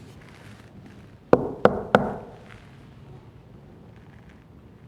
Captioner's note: knocks on door